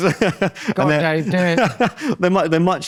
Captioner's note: laughs